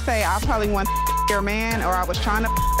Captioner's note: beep